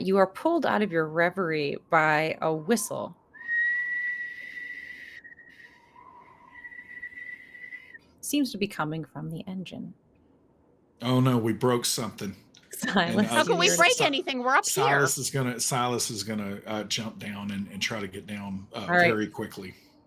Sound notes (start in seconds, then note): 3.3 whistling